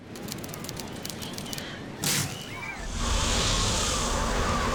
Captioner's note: waves; kids screaming; wind